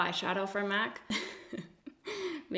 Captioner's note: giggles